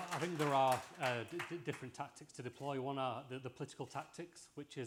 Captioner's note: applause